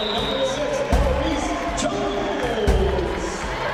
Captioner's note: cheering